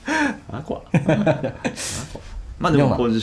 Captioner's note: laughs